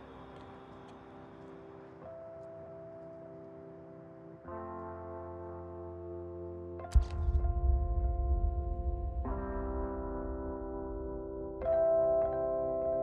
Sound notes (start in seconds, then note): 0.1 slow instrumental music; 7.0 camera flashes